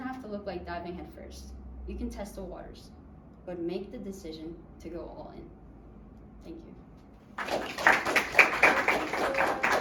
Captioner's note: clapping